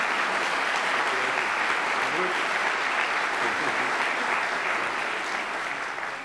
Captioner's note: applause